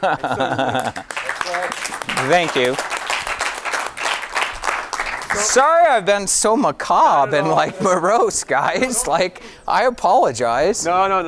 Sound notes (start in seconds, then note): 0.4 audience applauding